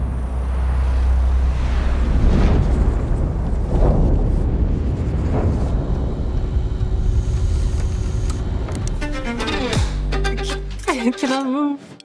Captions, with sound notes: [distant rumbling] [bright violin music] I cannot move!